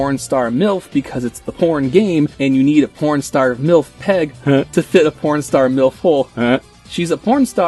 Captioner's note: heh